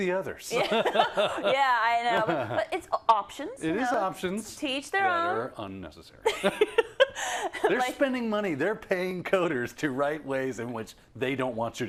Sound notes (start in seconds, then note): 0.6 laugh; 6.1 laugh